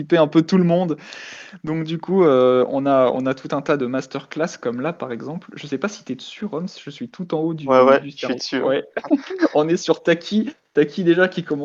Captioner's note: laugh